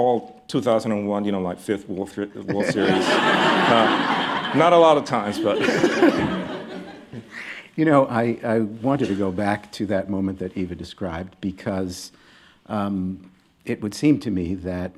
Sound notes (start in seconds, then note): 2.4 laughter